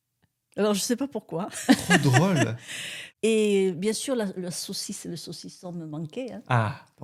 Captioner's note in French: rires